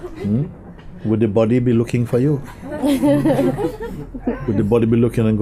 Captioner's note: laughter